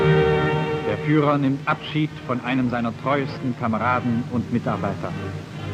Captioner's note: speaking German